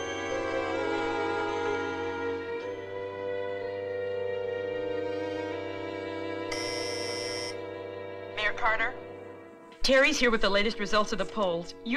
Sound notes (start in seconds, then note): 6.5 intercom buzzing